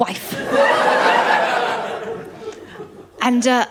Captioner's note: laughter